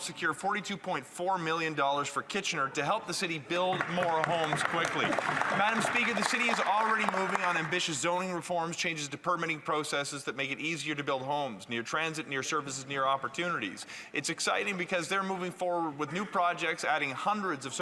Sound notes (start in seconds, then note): 8.6 some Applause